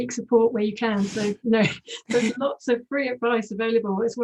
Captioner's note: laughs